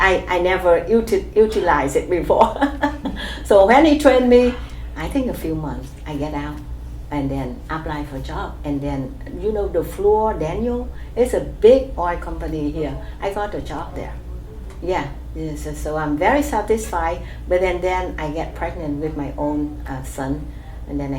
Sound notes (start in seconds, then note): 1.4 laughs